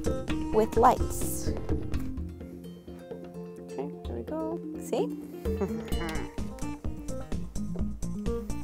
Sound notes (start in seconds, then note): 5.5 chuckling